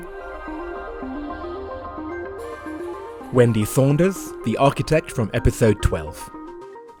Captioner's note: voiceover